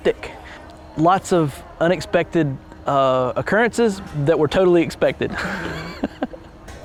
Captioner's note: laughs